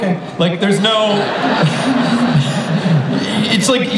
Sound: audience laughs

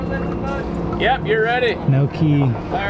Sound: male Voice

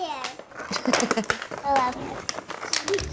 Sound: laughs

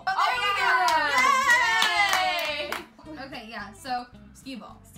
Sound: out of context cheering

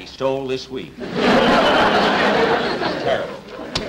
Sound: audience Laughing

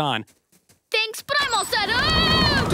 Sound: screaming

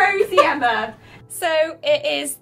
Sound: laughs

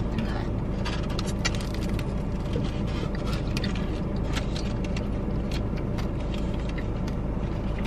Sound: chewing noises

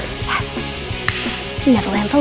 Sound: hands slap

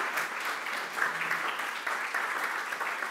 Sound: clapping

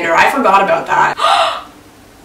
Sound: gasps

